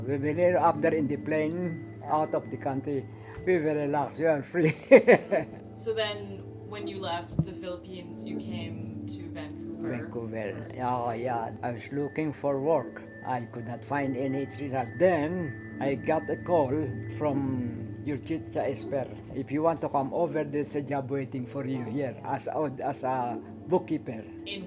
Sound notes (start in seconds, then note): 4.7 laughs